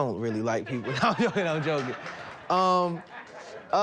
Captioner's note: audience laughing